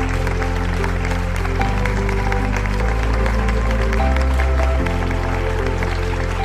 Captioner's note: applause